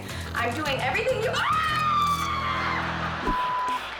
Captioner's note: screaming; audience laughing